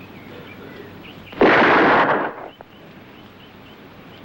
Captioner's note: gun firing